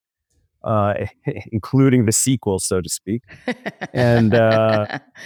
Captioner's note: laughs